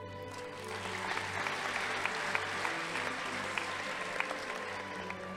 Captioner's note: audience applauding